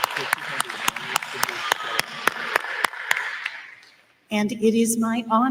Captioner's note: applause